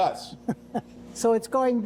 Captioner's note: chuckles